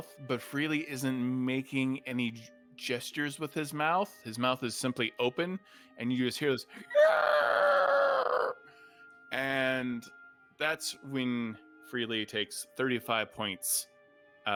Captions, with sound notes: but Freely isn't making any gestures with his mouth. His mouth is simply open and you just hear this (screams) and that's when Freely takes 35 points of necrotic damage